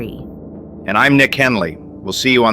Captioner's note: excited